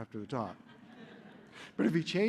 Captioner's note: laughter